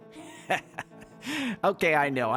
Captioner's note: laughs